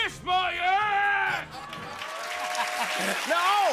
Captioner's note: cheers and applause